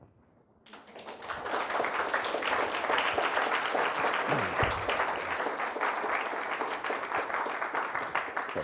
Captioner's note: applause